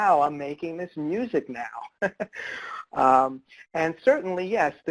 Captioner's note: laughs